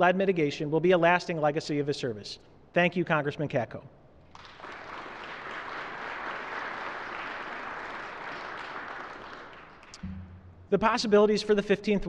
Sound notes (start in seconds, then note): 4.3 applause